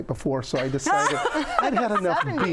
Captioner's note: group laughs